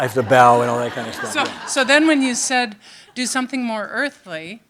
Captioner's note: audience laughing